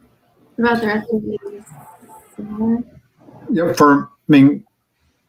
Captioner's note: radio interference drowns out speaker